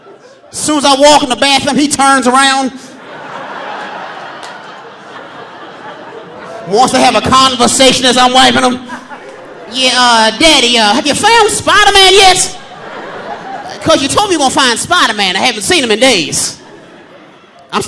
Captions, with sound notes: Soon as I walk in the bathroom, he turns around. (audience laughing) Wants to have a conversation as I'm wiping him. "Daddy, have you found a Spiderman yet? 'Cause you told me you gon' find Spiderman. I haven't seen him in days."